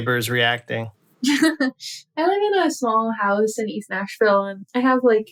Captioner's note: laughter